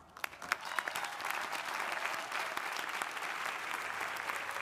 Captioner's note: crowd applauding